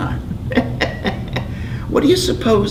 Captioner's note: laughing